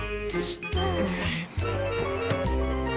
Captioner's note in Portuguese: suspiros